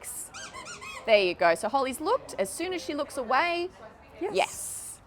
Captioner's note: toy squeaks